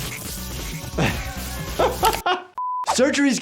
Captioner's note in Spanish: el doctor se ríe